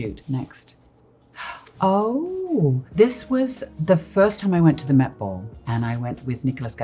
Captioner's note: gasps